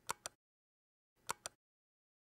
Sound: click

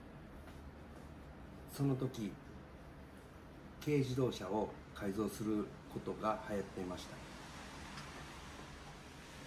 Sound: in japanese

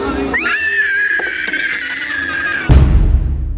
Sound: screeches

